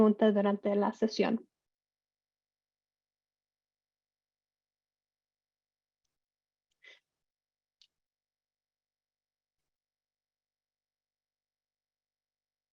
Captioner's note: silencio